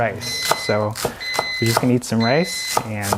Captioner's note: microwave beeps